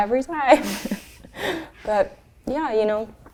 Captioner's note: both laugh